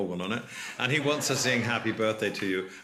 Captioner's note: laughter